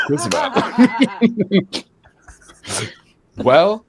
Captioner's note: laughing